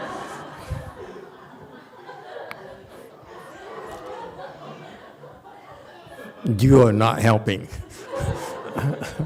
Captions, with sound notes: You are not helping. [Audience laughs]